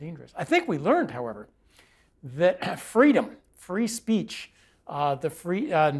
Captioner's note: cough